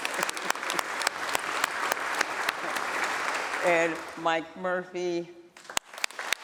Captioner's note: applause